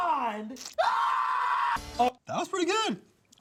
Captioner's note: screams